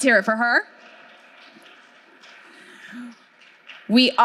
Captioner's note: audience clapping